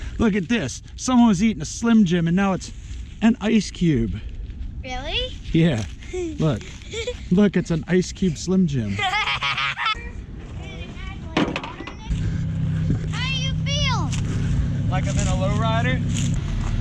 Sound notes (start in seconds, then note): 8.7 laughing